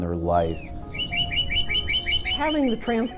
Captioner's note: bird singing